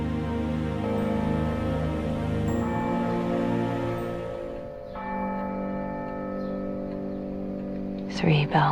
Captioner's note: three bells toll from far away; voiceover